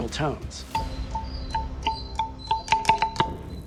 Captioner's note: pillar ringing